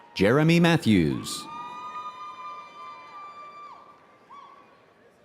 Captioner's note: audience cheering